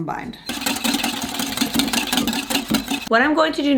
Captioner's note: mixing sounds